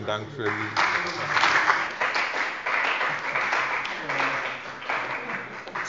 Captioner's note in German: Beifall bei der CDU und dem BÜNDNIS 90/DIE GRÜNEN